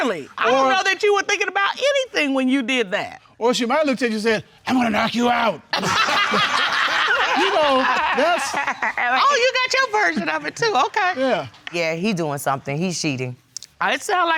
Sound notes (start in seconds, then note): 5.5 deep voice; 5.8 all laugh